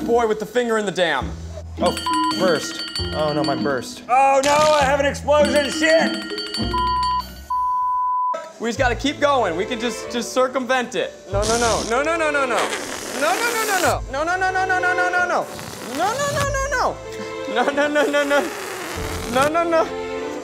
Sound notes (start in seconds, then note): 1.9 beep; 5.4 beep, beep